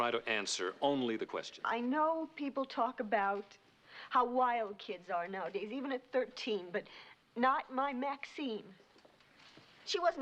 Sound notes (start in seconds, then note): none